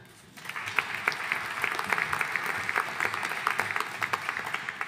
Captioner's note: audience applauding